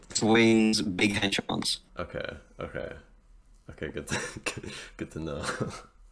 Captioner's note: chuckling